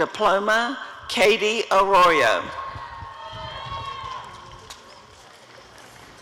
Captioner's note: applause and cheering